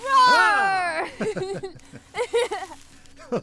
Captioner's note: joint laughter